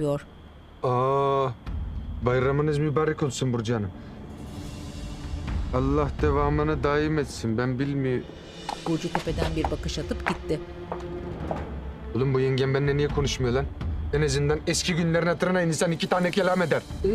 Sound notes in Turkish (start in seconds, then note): 8.6 Ayak sesi